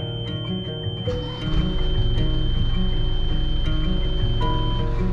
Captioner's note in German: Motor brüllt